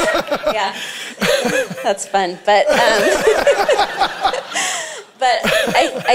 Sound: both laughing; laughing

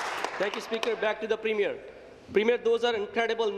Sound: applause

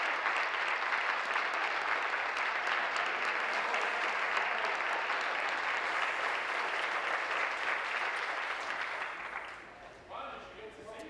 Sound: applause

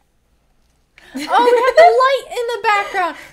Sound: laughs

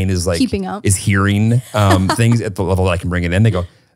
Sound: laughs

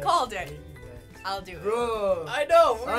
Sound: groaning

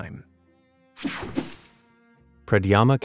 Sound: picture swooshes

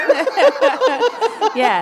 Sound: laughter

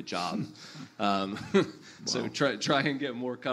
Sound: panelists laugh

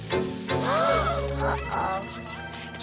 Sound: scared moaning

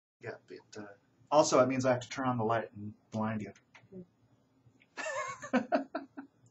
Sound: laughs

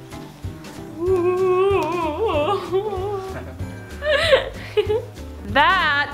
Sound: festive music; kids make spooky ghost sounds

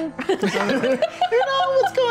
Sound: laughter

